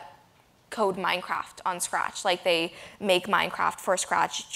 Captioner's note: none